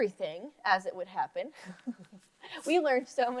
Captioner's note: laughs